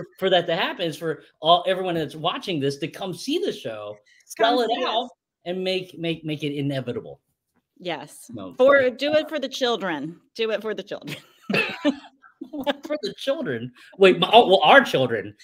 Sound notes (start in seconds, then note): 11.1 laugh